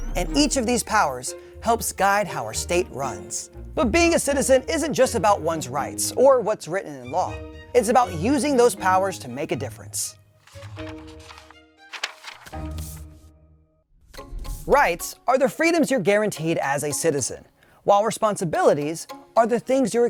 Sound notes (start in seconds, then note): 11.8 paper crumpling